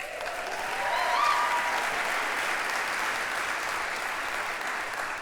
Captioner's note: applause